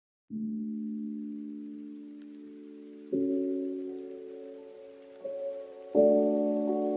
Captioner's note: gentle music; rainfall pattering